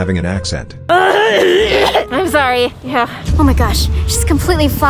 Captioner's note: clears throat